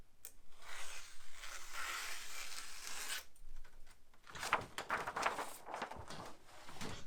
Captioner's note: paper rustling; paper cutting